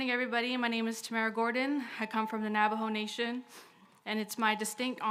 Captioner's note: speaks Indigenous language